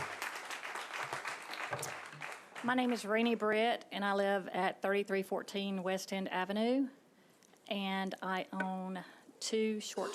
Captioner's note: applause